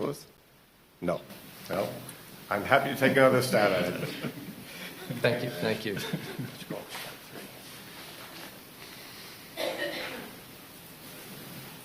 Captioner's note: laughter